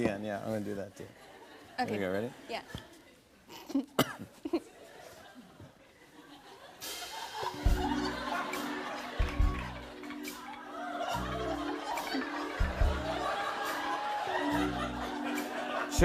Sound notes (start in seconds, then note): 3.5 coughs; 6.7 sultry music plays